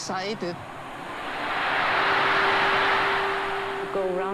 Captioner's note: crowd cheers